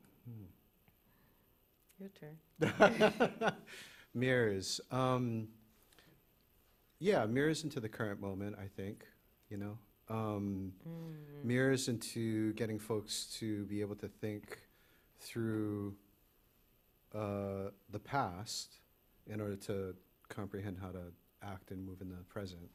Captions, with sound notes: -Mm-hmm. -Your turn. -[laughs] Mirrors, um, yeah, mirrors into the current moment, I think, you know. Um,- -Mm-hmm. --mirrors into getting folks to be able to think through, uh, the past in order to comprehend how to act and move in the present.